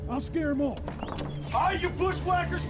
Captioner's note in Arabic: صرير الباب مفتوحًا